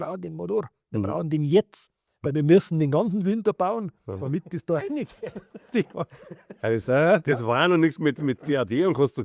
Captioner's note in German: gelächter